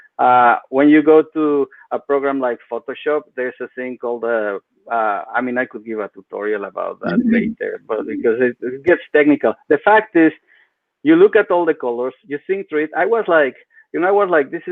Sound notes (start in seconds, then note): 12.0 speaks faintly